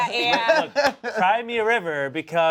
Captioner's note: laughs